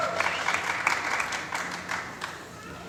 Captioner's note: applause